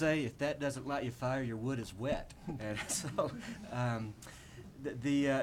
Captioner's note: laughs